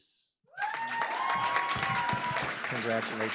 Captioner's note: cheering, applause